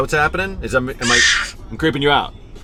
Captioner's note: screams